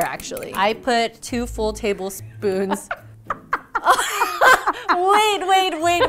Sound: laughing

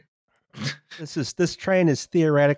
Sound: laughs

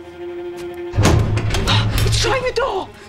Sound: rattling

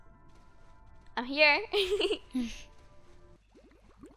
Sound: laughs

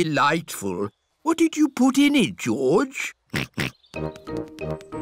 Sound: snorts

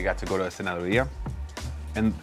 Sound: speaking foreign language

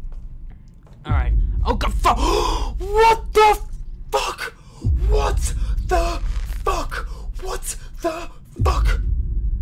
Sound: gasp

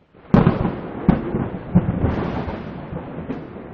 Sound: thunder clap

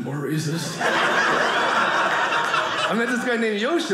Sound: audience laughing

